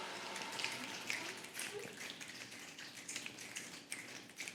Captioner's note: fingers snapping